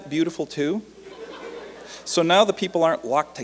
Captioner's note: light laughter